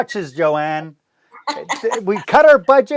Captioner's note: laughs